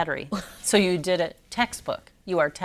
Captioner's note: laughs